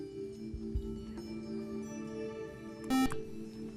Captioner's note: buzzer